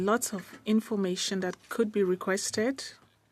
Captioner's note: speaking French